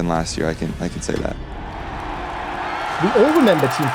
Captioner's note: crowd cheering